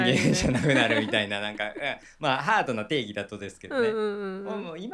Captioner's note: laughs